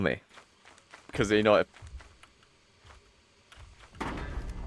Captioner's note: stomping of something that has other plans for him